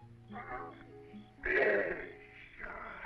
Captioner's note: grunting